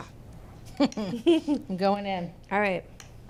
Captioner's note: both chuckle